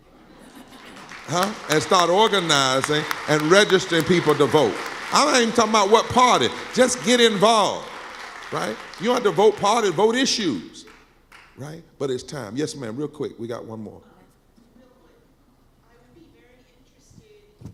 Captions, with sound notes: (clapping) And start organizing and register people to vote. I'm not even talking about what party, just get involved. You don't have to vote party, vote issues. But it's time. Yes, ma'am, real quick, we got one more. Just real quick, I would be very interested